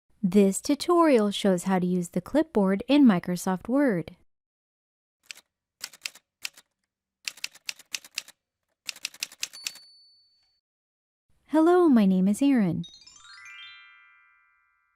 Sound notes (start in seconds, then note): 5.2 typewriter sounds; 12.8 chime sound